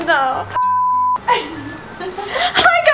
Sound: signal interruption beeps

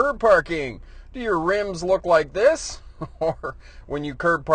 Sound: laughs

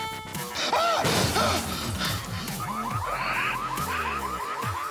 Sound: glass shatters, car alarm blares; gasps

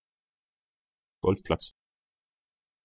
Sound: fast Pronunciation

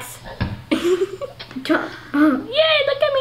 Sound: laughing

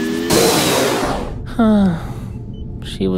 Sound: sigh

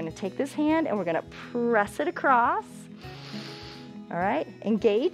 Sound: inhales

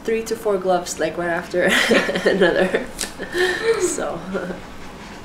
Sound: laugh

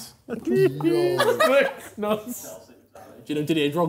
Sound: laughing

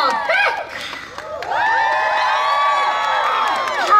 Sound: audience Cheering

